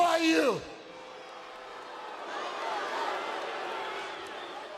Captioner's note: audience booing